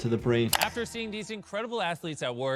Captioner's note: mouse clicking